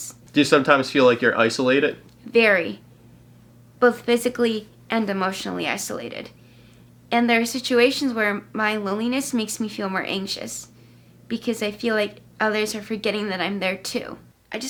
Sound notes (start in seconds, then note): none